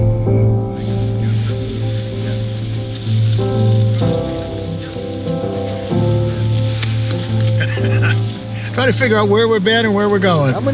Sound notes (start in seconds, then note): 7.5 laughing